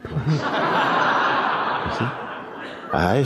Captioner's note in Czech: smích